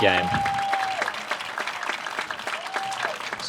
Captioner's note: applause